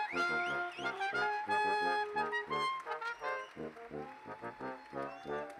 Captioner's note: cheers and Applause